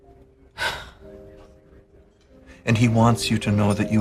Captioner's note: sighs loudly